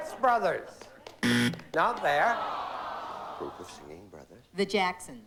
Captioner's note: buzzer